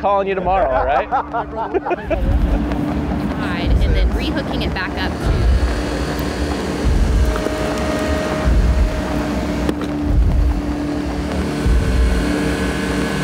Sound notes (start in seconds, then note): 1.8 laughing; 5.5 machinery whirring; 10.2 triumphant music